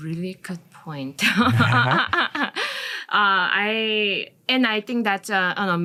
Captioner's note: laughs